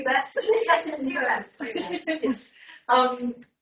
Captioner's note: everyone laughs